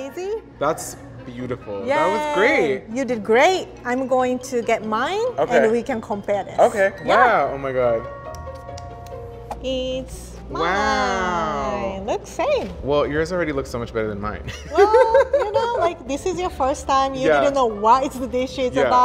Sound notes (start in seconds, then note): 14.6 laughs